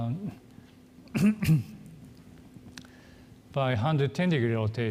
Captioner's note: coughs